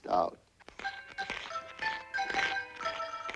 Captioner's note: slurping